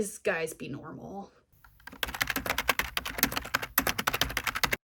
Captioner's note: keyboard typing noises